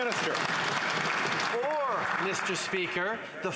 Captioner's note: some Applause